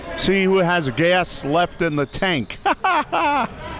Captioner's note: laughing